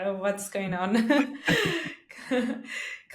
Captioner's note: laughing